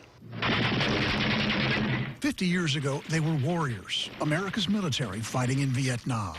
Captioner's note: gunfire